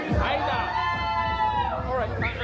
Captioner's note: crowd cheering